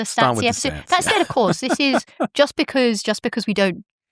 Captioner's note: chuckles